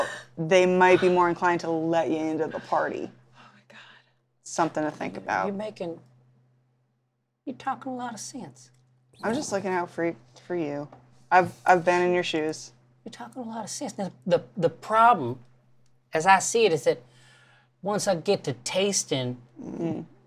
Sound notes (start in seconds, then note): 3.1 whispers; 9.1 chortles